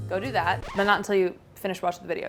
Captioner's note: record scratch